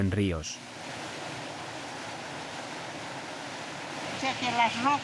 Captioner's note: water whooshing; speaking in foreign language